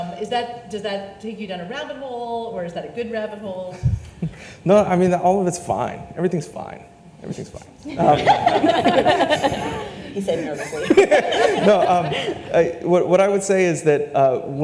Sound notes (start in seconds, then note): 4.0 laughs; 7.9 panelists laugh